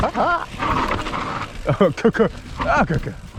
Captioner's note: both groan